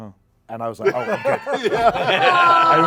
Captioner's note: laughter